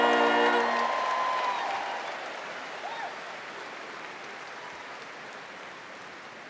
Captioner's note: students cheering and applauding